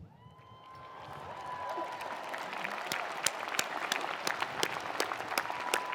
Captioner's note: attendees cheering; attendees applauding